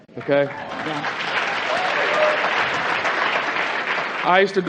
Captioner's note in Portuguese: Aplausos